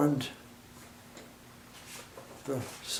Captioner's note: silence